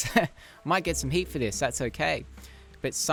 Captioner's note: giggles